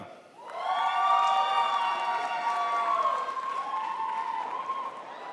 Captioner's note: crowd applauds